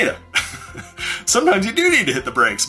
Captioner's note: chuckles